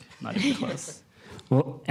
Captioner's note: laughter